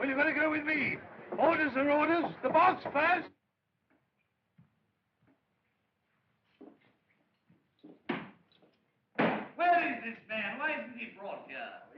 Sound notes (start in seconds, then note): 9.1 book Slams On Desk